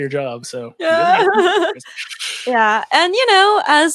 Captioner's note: laughs